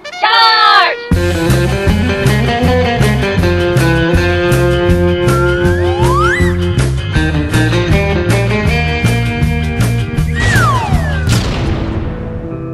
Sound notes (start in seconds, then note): 11.1 boom